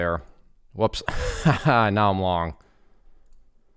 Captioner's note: laughs